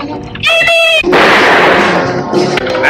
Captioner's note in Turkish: Silah sesi